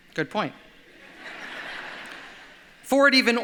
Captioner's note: audience laughs